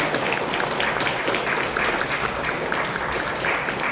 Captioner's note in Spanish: aplausos